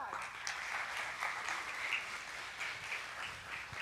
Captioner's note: audience applauding